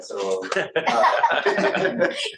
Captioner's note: laughter